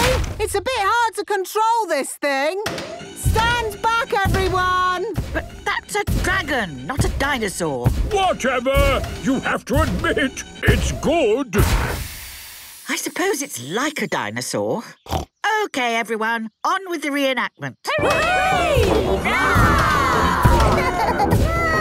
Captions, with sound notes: It's a bit hard to control this thing! Stand back, everyone! - But that's a dragon, not a dinosaur! - Whatever! You have to admit, it's good! - I suppose it's like a dinosaur. (snorts) Okay, everyone! On with the reenactment! (cheering) (roarings, giggling)